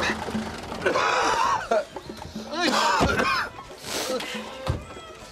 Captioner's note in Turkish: Nefes sesleri; Öksürme sesleri